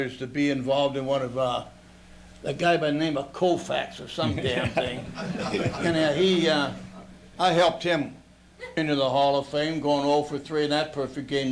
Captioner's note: laughter